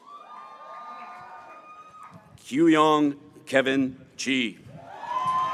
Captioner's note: graduates cheering